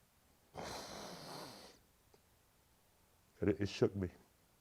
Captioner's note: breaths deeply